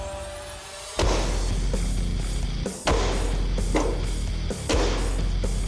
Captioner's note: blade impact sounds